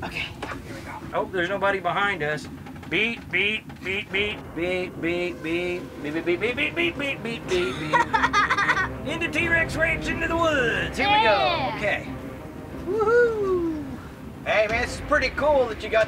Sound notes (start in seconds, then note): 2.8 imitates truck backing up; 7.4 laughs